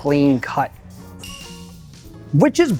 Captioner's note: bell rings